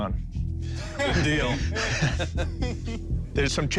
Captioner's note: laughter